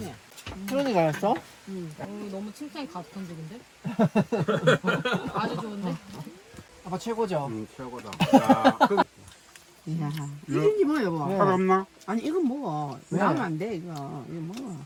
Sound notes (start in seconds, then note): 3.8 laughing